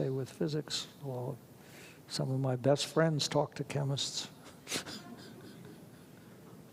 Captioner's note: laughs